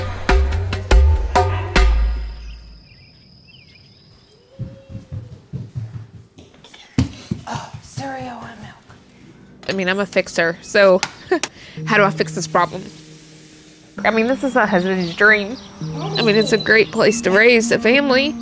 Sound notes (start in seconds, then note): 3.2 buzzing; 18.0 drums beating